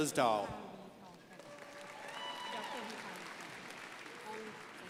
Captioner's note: crowd cheering